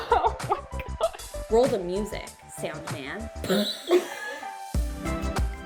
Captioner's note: laughing; laughing